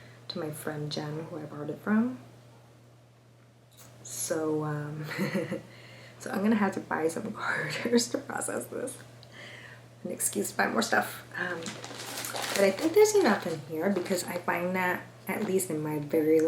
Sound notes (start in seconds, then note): 5.1 nervous chuckle